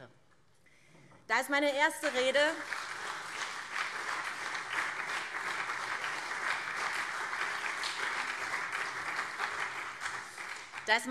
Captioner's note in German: Beifall SPD und CDU